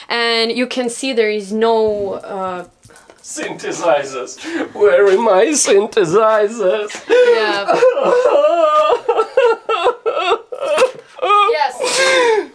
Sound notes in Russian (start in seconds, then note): 7.1 плачет